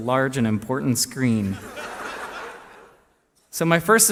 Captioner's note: laughter